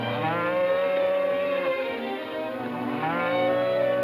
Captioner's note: cows mooing